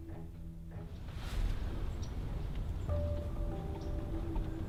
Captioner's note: rustling